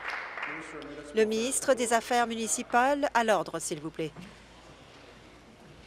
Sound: applause

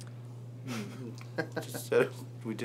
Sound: laughs

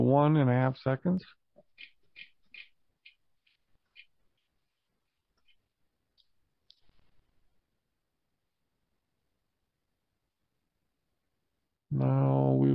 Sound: silence

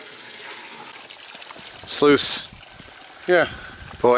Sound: water runs

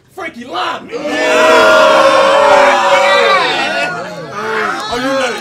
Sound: audience yells

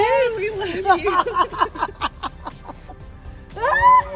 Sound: laughter

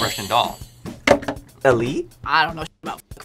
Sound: bell rings; bell clicks

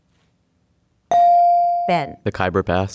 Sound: dinging

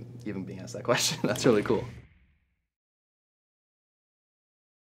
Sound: swooshing

